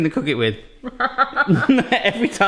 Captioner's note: laughing